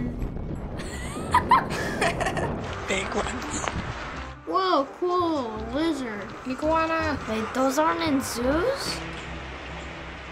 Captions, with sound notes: *laughs* *laughs* Woah cool, a lizard! Iguana! Wait, those aren't in zoos?